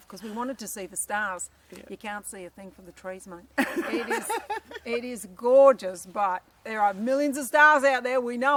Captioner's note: laughter